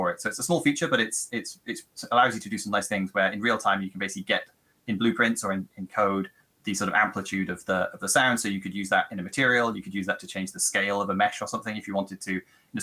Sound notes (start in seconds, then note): none